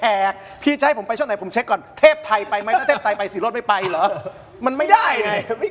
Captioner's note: laughs